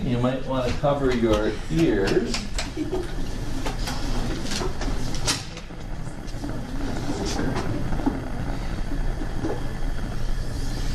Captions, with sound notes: you might wanna cover your ears. (bunsen burner flame crackling)